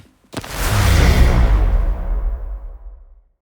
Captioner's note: logo whooshes loudly